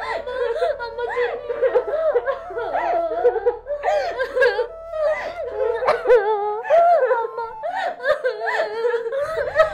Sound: both crying

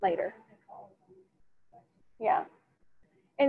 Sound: student speaking faintly

